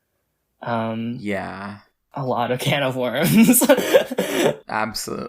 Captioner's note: laughs